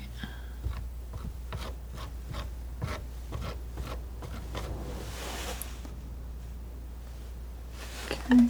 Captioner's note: scratching